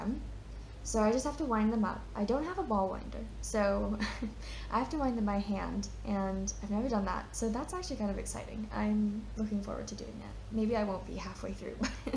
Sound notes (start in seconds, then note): 4.0 chuckles; 11.8 chuckles